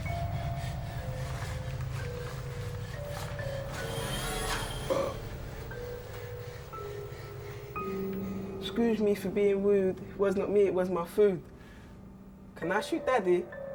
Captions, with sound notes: (bubble blower buzzing) - Excuse me for being rude. It was not me, it was my food. Can I shoot daddy?